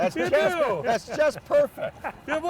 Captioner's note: chuckling